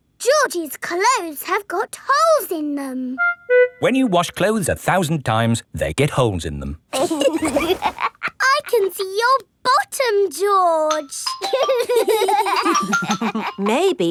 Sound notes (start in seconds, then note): 6.9 laughs; 11.4 giggling